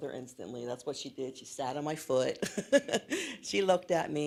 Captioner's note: laughs